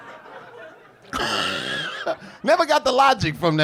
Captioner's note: laughing